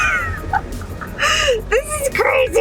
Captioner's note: laughing